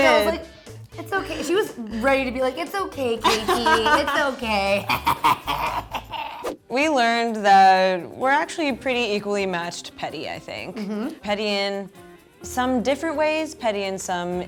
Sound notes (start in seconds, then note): 4.9 celebratory laughing